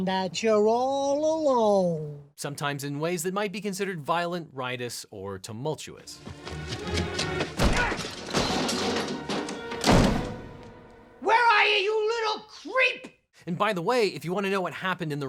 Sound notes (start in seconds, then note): 6.1 dramatic music; 6.9 clattering